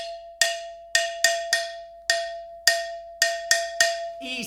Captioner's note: hollow tapping sound